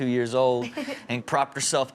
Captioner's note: Chanel laughing